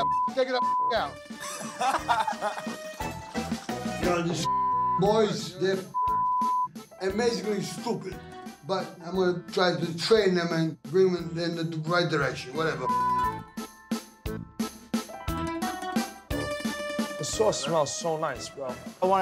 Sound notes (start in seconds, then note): 0.0 beep; 1.3 men laughing; 4.4 beep; 12.8 beep